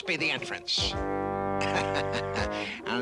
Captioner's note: chuckles